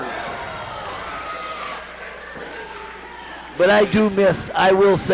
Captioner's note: crowd cheers